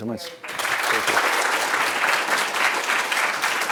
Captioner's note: applause